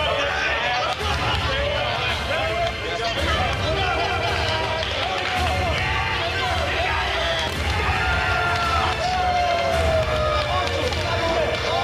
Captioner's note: cheering